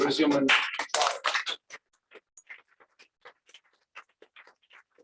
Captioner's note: applause